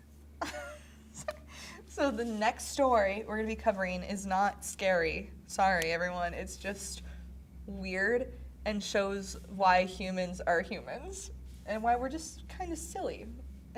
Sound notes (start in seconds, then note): 0.4 laughs